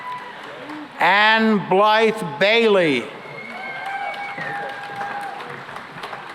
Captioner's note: applause